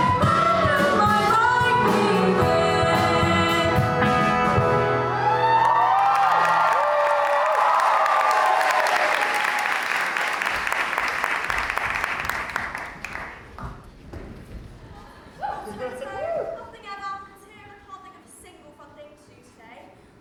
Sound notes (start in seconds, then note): 5.0 audience cheers